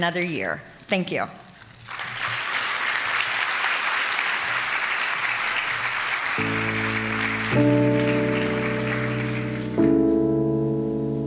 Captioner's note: applause